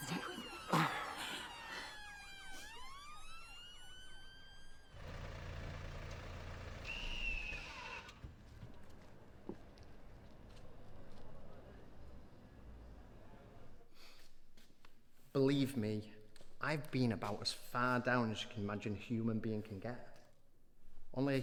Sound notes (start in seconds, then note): 0.7 Shaun continues grunting; 5.0 car humming